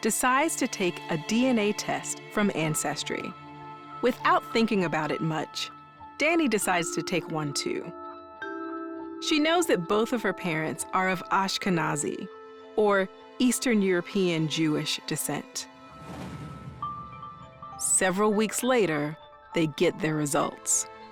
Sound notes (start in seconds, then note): none